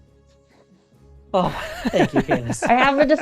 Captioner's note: laughter